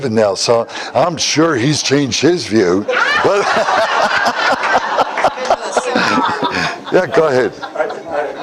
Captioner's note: Смех